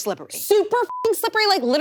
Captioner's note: beep